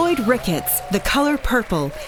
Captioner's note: applause